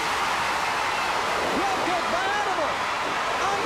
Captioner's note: crowd cheering